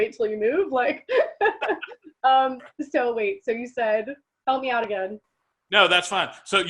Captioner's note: laughs